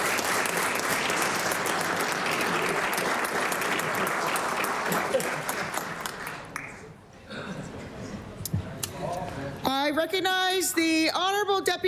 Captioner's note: cheering/Applause